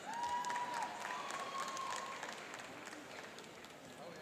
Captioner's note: cheering and applauding